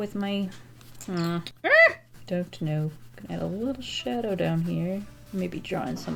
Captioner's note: frustrated squeal